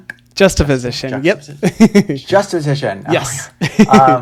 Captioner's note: laughs